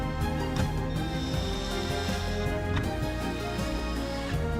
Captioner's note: drill whirring